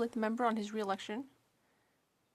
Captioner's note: speaking French